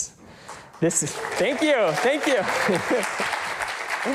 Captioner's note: audience claps